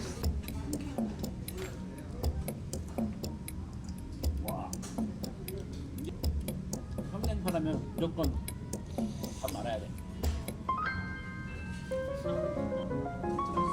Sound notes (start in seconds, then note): 6.1 taking a deep breath